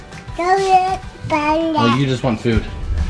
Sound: babbles

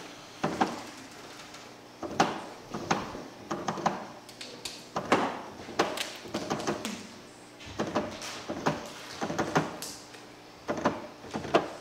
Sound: keyboard keys being hit

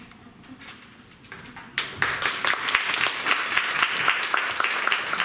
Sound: applause

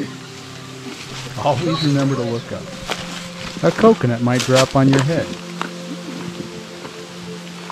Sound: laugh

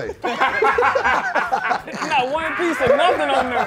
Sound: group laughing

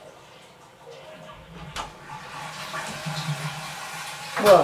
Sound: flushing Sound??

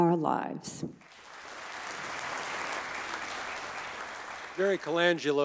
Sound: audience applauding

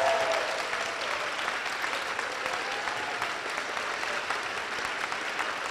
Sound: cheers and applause

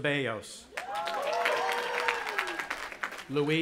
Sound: audience applauding and cheering

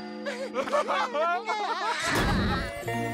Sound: laughing

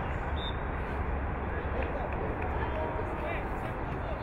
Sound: whistle blowing

